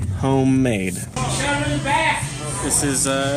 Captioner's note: person in bar yelling